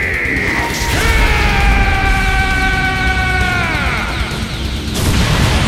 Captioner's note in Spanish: Gritos